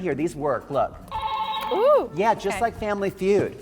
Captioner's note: buzzer ringing